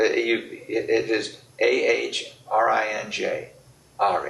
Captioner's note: laughs